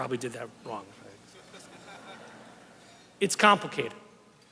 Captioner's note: laughter